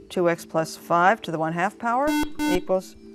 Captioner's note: buzzer